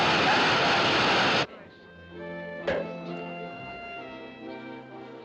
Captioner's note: cork Pops